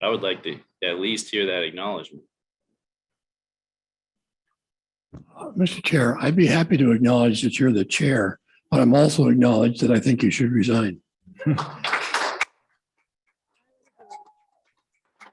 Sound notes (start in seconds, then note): 11.4 applause